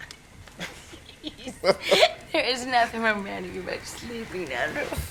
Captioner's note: laughs